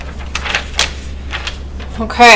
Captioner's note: pages rustling